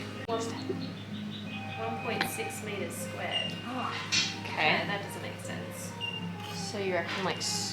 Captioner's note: people talking in the background